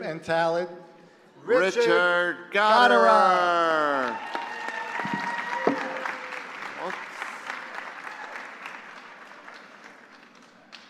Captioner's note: applause